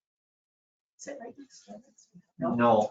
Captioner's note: speaking faintly